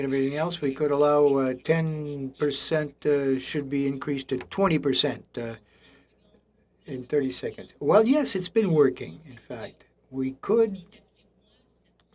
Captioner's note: speaking French